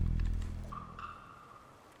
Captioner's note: none